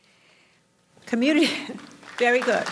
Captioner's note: audience applauds